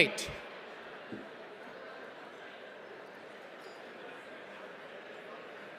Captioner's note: audience chattering